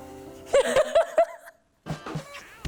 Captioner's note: burst out in laughter